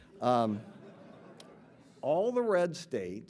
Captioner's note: audience laughing